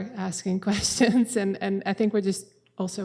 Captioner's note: chuckles